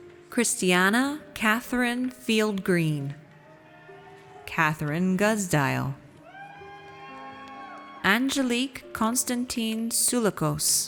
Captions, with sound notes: Christianna Katherine Field Green. Katherine Guzdial. (audience cheers) Angelique Constantin Soulakos.